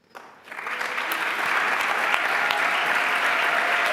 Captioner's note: applause